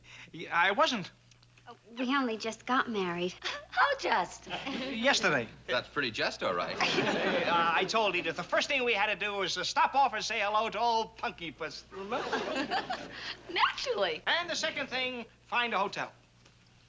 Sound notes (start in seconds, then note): 11.9 laughs